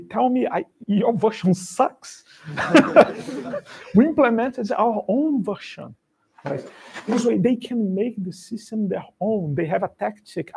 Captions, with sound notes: Tell me your version sucks. [LAUGHTER] We implemented our own version. So they can make the system their own. They have a tactic.